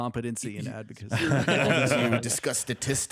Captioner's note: laughter